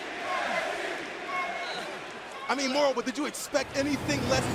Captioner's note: crowd cheering